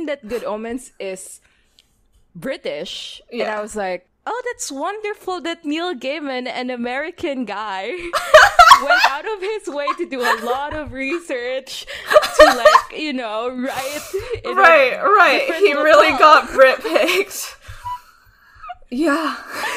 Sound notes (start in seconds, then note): 7.9 laughing; 15.1 laughs